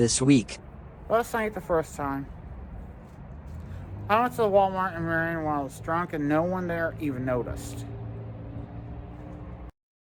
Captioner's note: drunken voice as Ava Willis